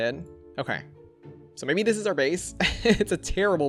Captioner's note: laughs